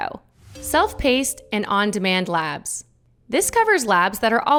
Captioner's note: slide chiming